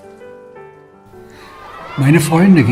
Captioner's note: children playing